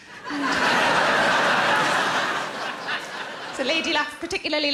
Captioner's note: audience laughing